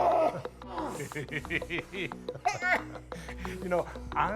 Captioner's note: laughs